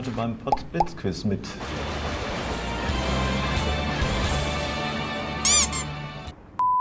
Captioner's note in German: Donner-Geräusche und Musik